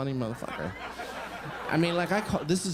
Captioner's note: crowd laughing